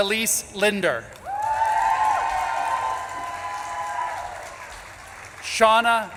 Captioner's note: audience claps and cheers